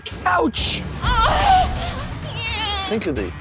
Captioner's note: moans